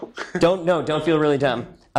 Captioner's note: laughs